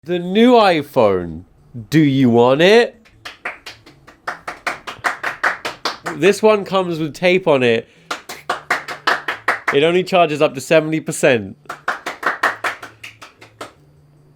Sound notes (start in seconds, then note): 3.0 clapping; 8.0 clapping; 11.6 clapping